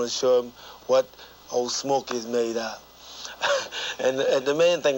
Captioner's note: laughing